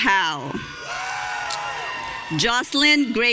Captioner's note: audience cheering